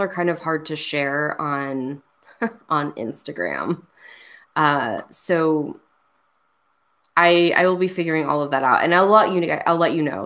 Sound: laughs

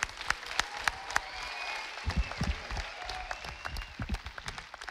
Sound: audience applauding

